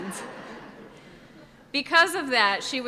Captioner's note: audience laughs